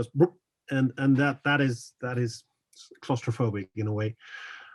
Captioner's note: bloop